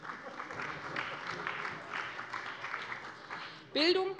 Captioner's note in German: Beifall bei der CDU